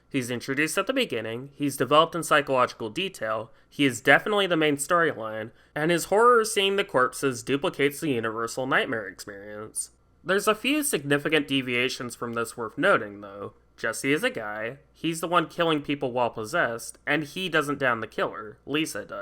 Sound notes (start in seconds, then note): none